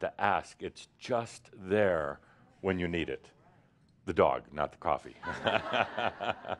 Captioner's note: laughter